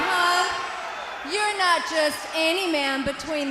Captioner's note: crowd chatter